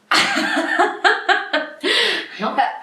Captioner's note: laughs